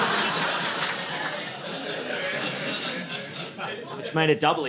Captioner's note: audience laughing